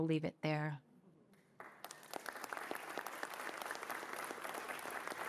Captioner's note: applause